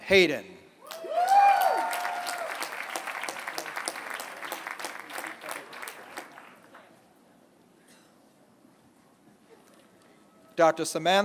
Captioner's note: applause